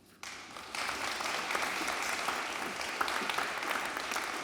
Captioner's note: audience applauding